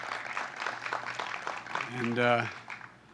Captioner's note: applause